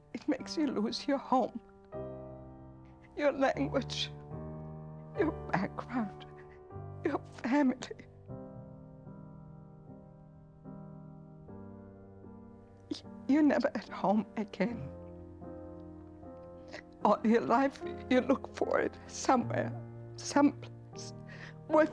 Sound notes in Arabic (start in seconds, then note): 11.1 بكاء